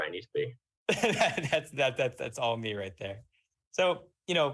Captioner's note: laughs